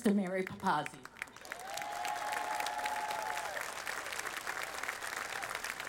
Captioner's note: audience applauding